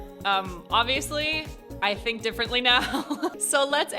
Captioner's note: chuckles